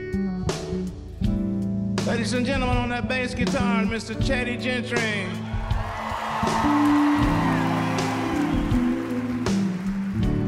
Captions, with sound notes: Ladies and gentlemen, on that bass guitar, Mr. Teddy Gentry. [CROWD CHEERING]